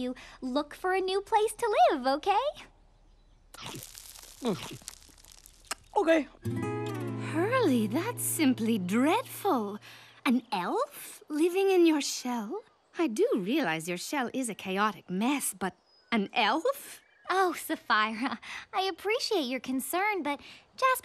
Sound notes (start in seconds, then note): 3.4 munching